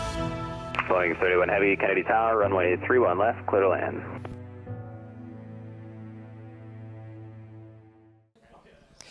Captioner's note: radio chatter